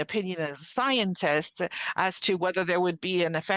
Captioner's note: speaking French